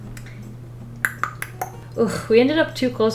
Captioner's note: clicks tongue